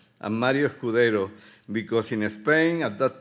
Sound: speaking Spanish

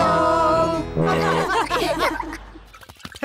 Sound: all laugh

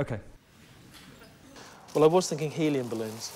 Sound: laughter

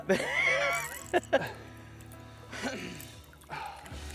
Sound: laughs

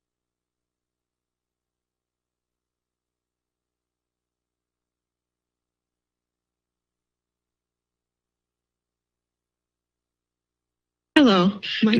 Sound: silence

